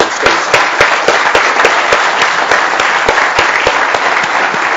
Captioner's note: everyone applauds